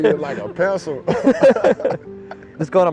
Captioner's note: both laughing